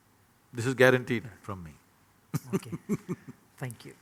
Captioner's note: laughs